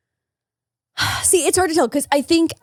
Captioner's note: sighs